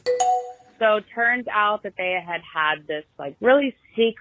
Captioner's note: bing bong sound